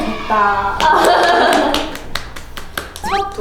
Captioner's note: clap!